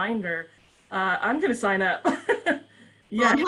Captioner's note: laughs